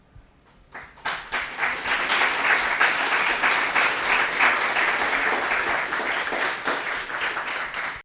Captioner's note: applause